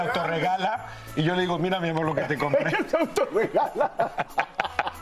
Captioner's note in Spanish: risas